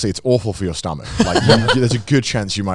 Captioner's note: chuckles